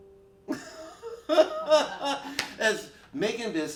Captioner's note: both laughing